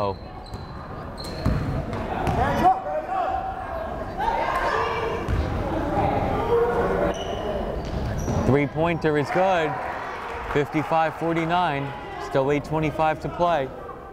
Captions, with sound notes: (crowd chattering) Three pointer is good. 55-49, still 8:25 to play.